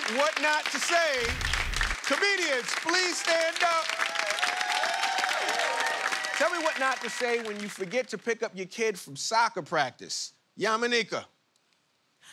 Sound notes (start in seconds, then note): 4.5 cheers and applause